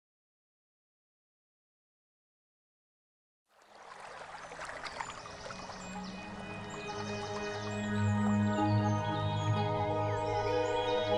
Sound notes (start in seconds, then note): 3.5 water flowing; 7.2 birds chirping